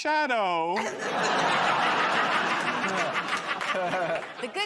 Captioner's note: laughter